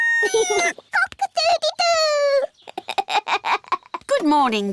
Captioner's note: neville crows; laughs; giggles